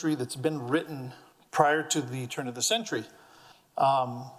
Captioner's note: none